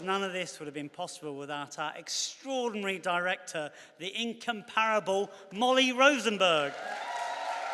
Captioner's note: cheers and applause